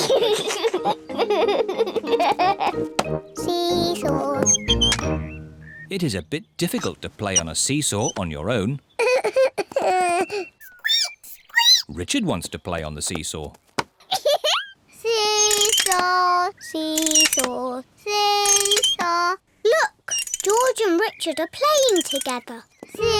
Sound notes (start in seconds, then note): 0.0 giggles; 9.0 sobs; 10.9 squeaks; 14.1 giggles